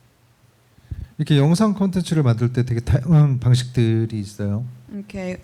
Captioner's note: speaking korean